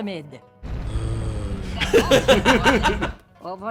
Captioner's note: sighs